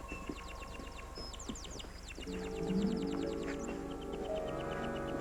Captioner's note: birds chirping